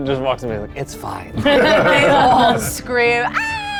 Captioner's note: group laughs